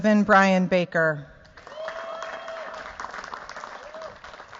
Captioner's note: cheers, applause